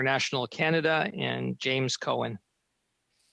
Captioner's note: speaking french